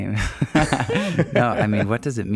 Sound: laughing

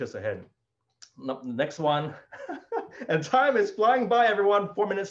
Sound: laughs

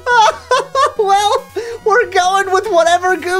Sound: laughs

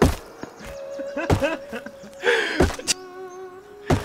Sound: laughs

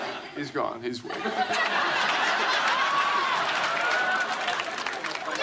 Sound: laughs

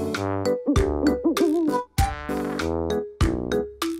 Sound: owl hoots

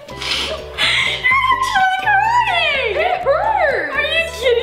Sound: faintly Speaks; squeals

